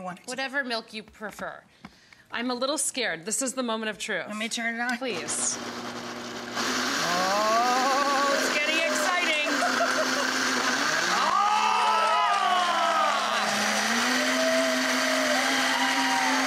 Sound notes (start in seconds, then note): 5.7 blender buzzing; 9.7 blender buzzing continues; 10.8 audience clapping